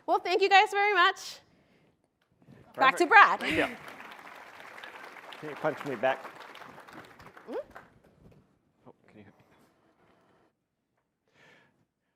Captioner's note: applause